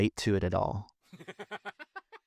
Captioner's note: laughing